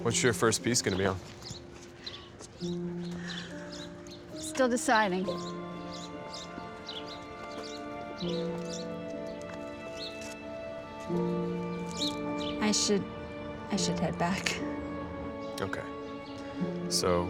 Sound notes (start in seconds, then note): 6.0 birds chirping; 8.6 soft dramatic music